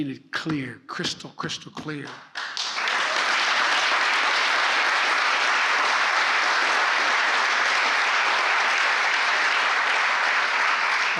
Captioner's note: applause